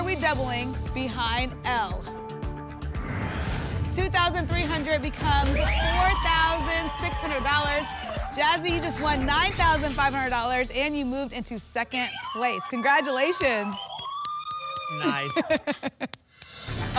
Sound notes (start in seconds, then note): 2.9 whoosh; 5.2 applause and cheering; 13.8 applause and cheering; 15.0 laughs